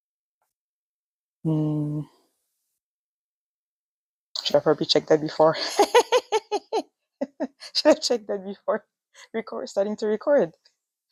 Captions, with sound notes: hmm I should have probably checked that before (laughs) I should have checked that before (laughs) record starting to record